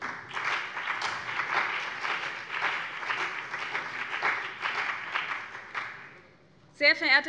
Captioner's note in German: Beifall BÜNDNIS 90/DIE GRÜNEN und vereinzelt CDU